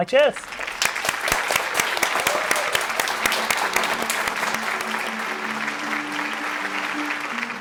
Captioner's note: applause